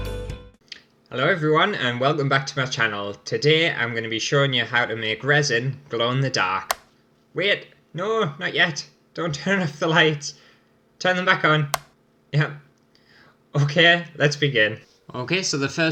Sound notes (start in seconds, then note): 0.0 intro Music; 6.7 click